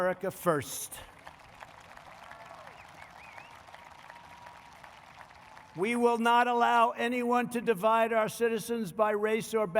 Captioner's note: applause